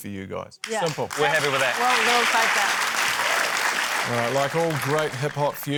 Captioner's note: applause